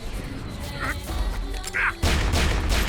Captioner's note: grunts